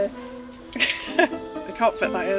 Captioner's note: laughs